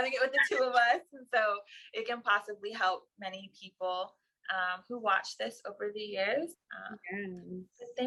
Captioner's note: laughter